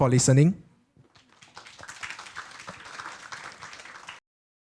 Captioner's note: applause